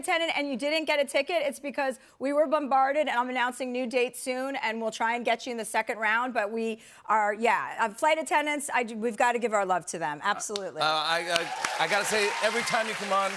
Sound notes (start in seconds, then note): 11.1 cheers and applause